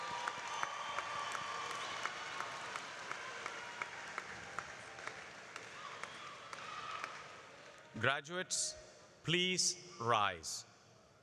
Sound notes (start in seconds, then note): 7.7 applause